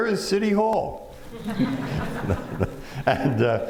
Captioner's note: laughter